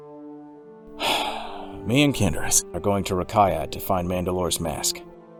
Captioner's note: sighs